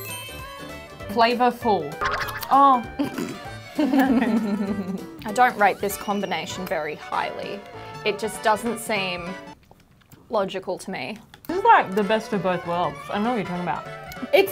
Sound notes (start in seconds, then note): 3.6 giggling